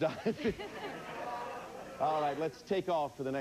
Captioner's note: audience laughing